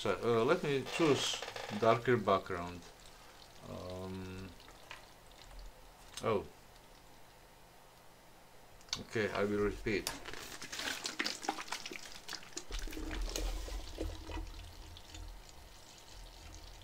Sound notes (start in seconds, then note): 10.5 water gurgling again; 15.7 finally some silence